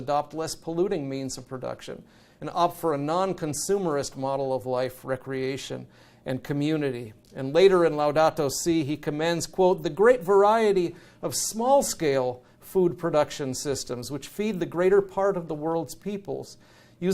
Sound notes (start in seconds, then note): none